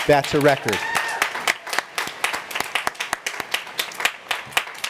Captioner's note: applause